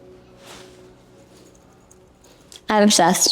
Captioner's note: good earring jingle noises